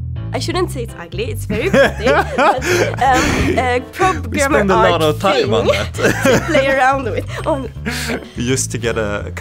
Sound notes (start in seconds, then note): 1.5 laughs